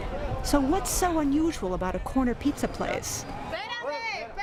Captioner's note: speaking spanish